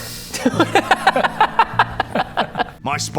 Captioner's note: murder hobo laugh